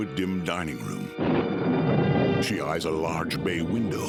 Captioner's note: thunder rumbling